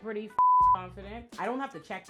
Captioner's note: beep